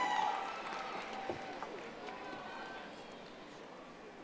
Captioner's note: audience applauding